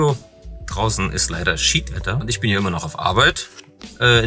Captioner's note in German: plattdeutsch